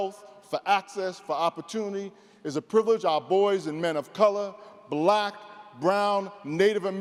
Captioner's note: none